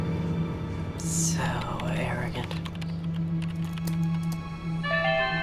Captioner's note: typing; chime